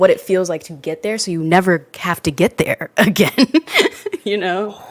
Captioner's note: laughs